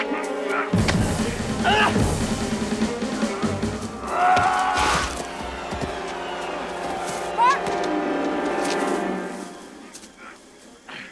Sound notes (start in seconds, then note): 3.2 yelling